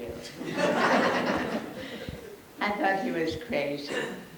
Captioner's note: audience laughs